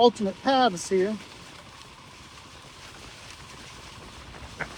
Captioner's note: motor rumbling